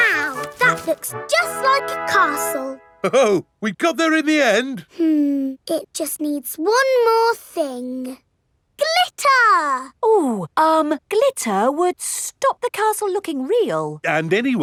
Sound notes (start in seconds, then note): none